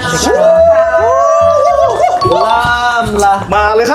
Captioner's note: screaming excitedly